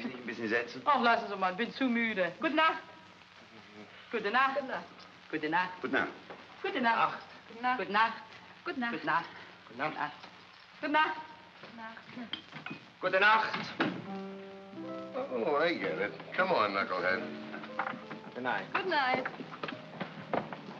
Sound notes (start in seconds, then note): 0.2 speaking in German; 4.1 saying "good night" in German